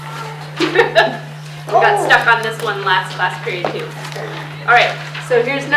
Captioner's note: chuckles